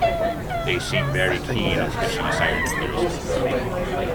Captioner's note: people chattering